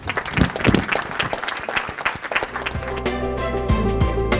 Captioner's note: applause